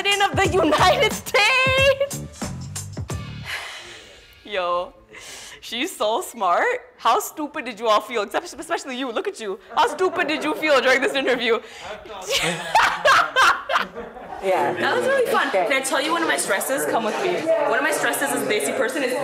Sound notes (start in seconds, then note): 3.2 exhales; 12.2 laughter